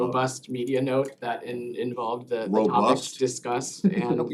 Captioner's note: laughter